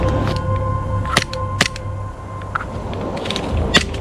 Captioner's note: guns clicking